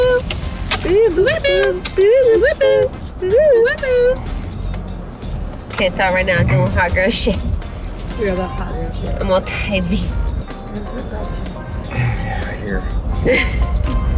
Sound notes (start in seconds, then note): 5.9 speaking in foreign language